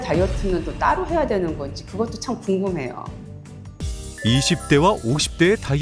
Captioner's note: voiceover